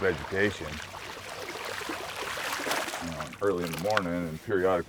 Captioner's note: fish splashing